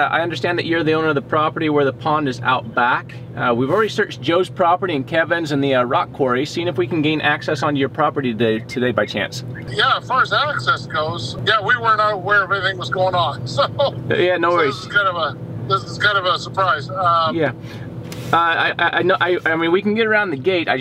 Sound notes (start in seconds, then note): 9.8 man Over Phone; 14.5 laughs; 15.1 man Over Phone